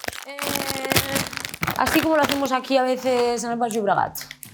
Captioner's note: speaks in Spanish